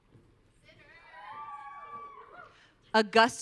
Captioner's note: audience cheering